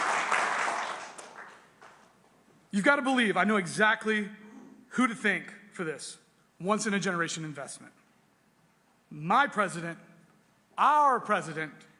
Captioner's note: applause